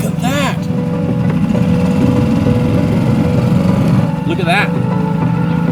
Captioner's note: boat whirring